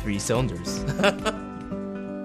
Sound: laughing; peaceful music

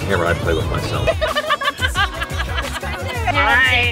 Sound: laughter

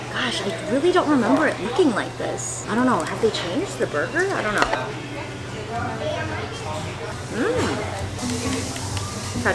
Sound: none

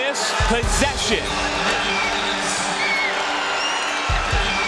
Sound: crowd cheering

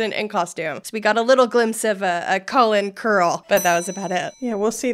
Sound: bell dings

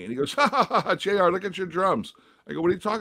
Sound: laughter

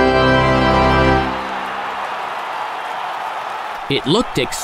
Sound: cheers and applause

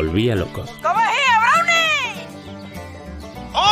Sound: bad pronunciation

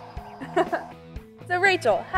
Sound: giggles

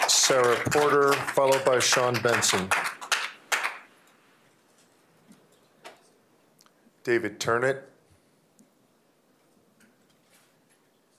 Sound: applause

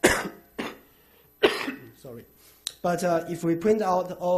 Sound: coughs

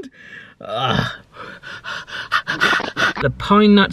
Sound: laughing

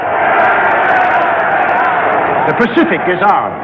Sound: crowd shouting

